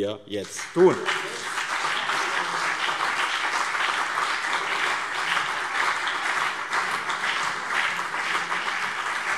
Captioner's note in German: Beifall BÜNDNIS 90/DIE GRÜNEN und CDU